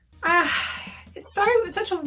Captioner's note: sighs